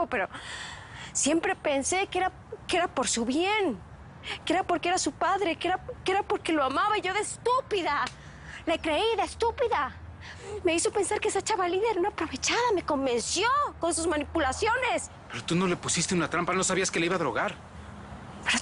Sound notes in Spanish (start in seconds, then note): none